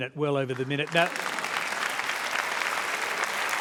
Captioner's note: applause